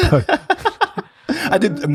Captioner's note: laughs